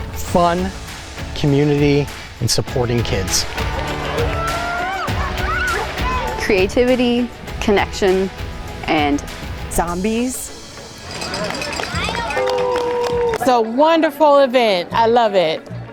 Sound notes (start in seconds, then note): 3.5 spectators cheering; 3.6 rock music; 9.8 spectators chattering; 10.0 object clanging; 12.4 spectators cheering